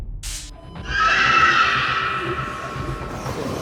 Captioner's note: dana screams